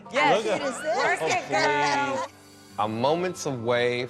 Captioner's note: chuckles